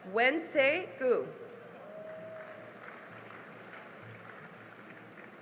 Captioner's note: cheering and applause